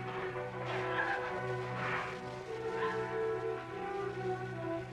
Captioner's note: crying